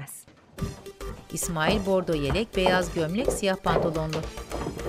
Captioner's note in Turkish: Ayak sesi